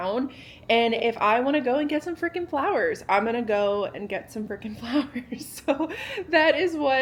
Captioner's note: laughs